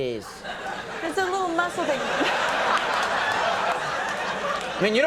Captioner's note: public laugh